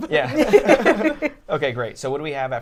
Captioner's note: all laughing